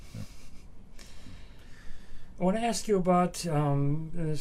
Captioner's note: laughs